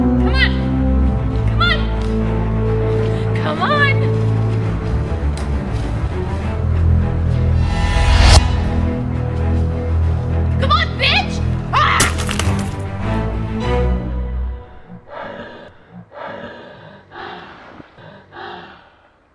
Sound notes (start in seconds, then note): 4.9 dramatic music; 15.2 Goocher gasping